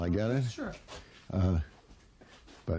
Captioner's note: voiceover